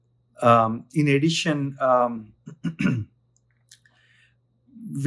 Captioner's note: clears throat